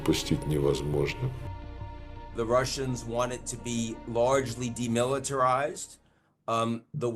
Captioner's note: speaking alternate language